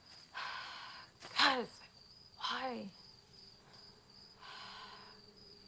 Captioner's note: sighs